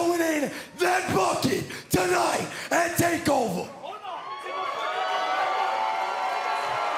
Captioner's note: shouting; cheers & applause